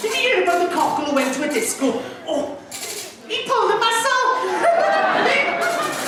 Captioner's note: audience laughs